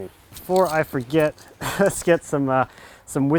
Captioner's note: laughs